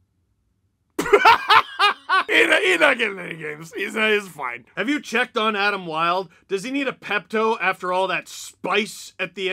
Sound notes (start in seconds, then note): 1.0 laughter